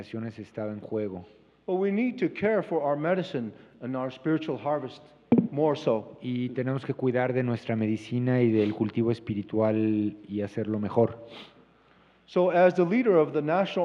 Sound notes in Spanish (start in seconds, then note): 1.7 Expositor habla en inglés